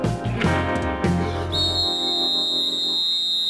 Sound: whistle blowing

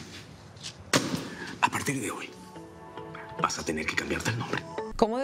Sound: Estruendo

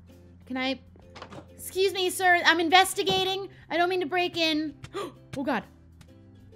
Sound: gasp

